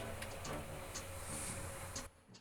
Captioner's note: clicking